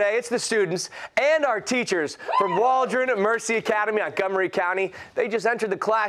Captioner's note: cheers and applause